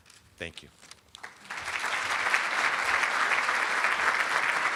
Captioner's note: applauding